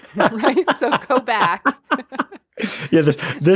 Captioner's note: laughter